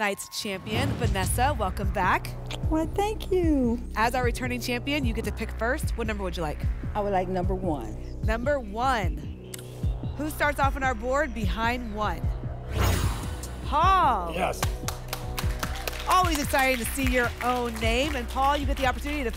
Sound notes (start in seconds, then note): 12.6 whoosh; 14.5 applause